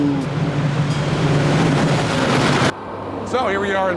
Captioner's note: train rattling